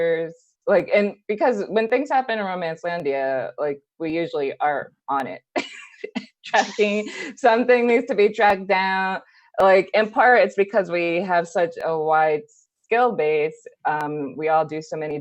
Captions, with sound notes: like, and because when things happen in Romancelandia, like we usually are on it. [Laughing] Tracking Something needs to be tracked down. Like in part it's because we have such a wide skill base, we all do so many